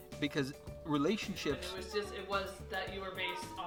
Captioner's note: none